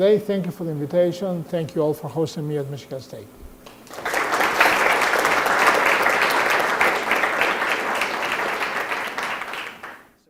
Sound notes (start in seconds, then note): 3.7 applause